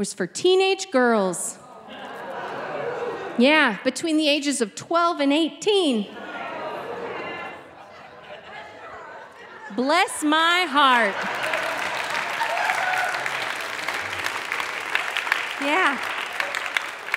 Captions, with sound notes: and this camp was for teenage girls. (audience laughing) Yeah. Between the ages of 12 and 18. (audience gasping) Bless my heart. (audience clapping) Yeah.